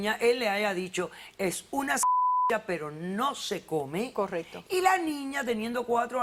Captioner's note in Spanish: Bip